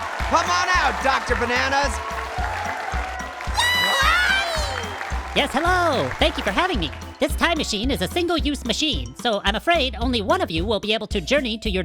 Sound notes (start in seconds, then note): 0.0 audience applauds; 2.6 audience and panel cheers